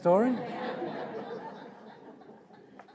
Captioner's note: audience laughing